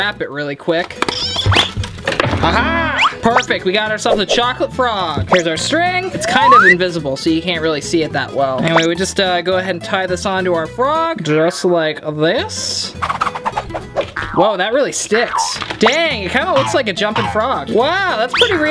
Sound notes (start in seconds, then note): 14.0 sound effects